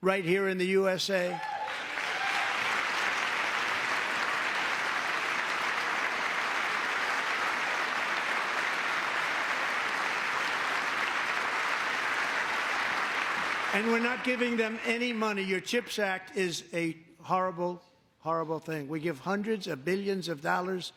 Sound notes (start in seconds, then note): 4.6 cheering; 6.2 applause